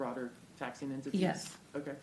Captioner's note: off mic